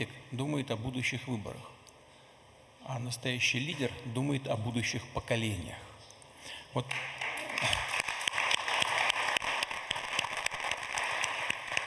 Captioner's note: applause